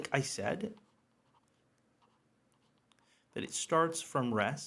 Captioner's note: pen scribbles